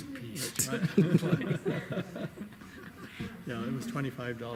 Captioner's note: laughing